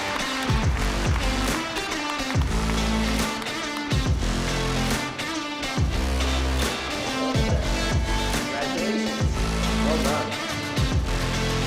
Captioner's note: applause